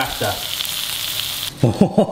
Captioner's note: pork sizzling; laughs